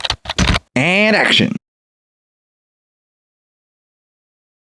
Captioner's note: typing